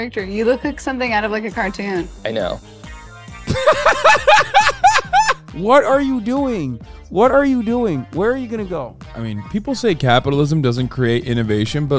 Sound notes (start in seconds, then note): 3.4 laughter